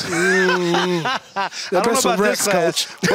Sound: indistinct chatter

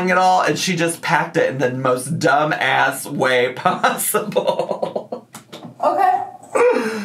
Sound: laughs

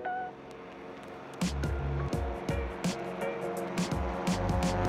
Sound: plane engine roaring

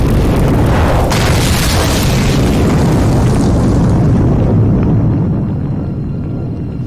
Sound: loud explosion; fire crackling

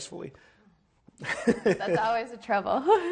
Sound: laughs

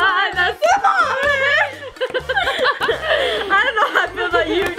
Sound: laughing

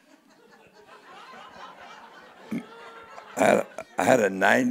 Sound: audience laughing

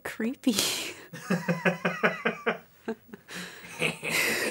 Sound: laughing

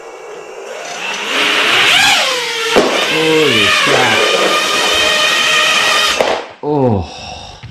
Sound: engine sound

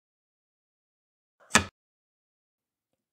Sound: clunk

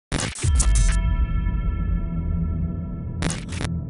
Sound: bell rings

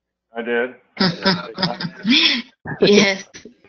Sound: laugh

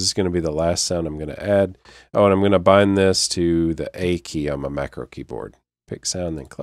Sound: click

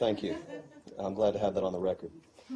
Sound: laughter

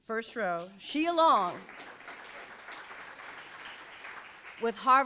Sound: audience applauds

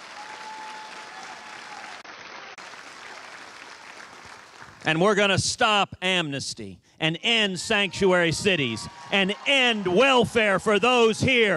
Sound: cheers and applause

